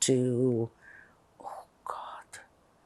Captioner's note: whispering